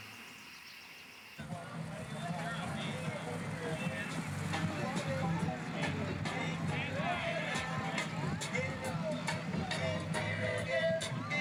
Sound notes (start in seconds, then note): 2.3 overlapping chatter; 2.3 reggae music